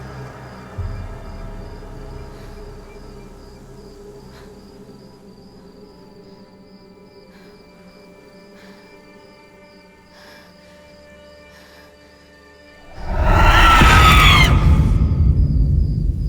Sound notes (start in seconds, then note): 10.1 Girl in Black breathes heavily; 12.8 ethereal screeching